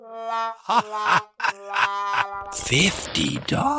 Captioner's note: cackle